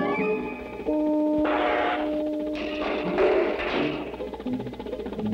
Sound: machine Sounds, Klang!

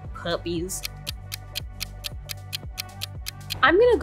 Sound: clock ticking

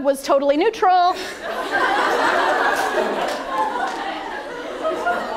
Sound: attendees laugh

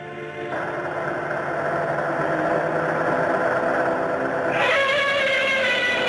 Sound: capsule whirring; Gammera screeches

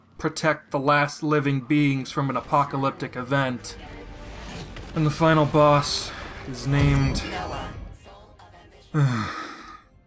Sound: sigh

